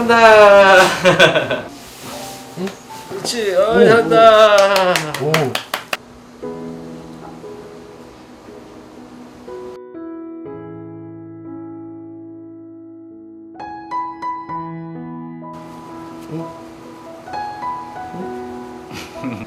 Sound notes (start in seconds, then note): 4.4 applause